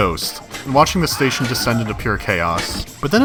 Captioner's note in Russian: крик Вильгельма